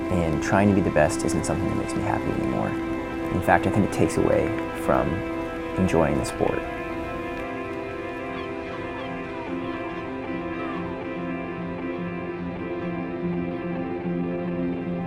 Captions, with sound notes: and trying to be the best isn't something that makes me happy anymore. In fact, I think it takes away from enjoying the sport. (birds cawing)